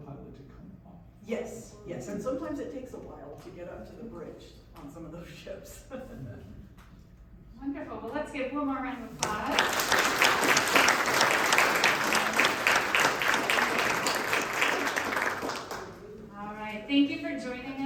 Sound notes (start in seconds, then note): 6.1 laughs; 12.8 applause